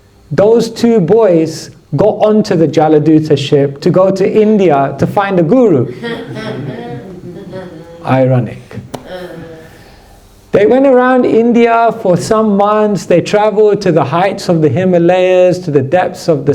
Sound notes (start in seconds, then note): 5.8 laughter